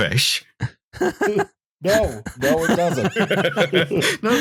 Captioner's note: laughs; laughter